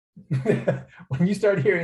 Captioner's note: laughter